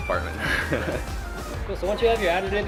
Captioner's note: laughs